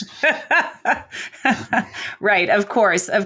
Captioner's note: laughing